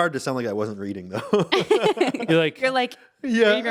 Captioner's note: laughing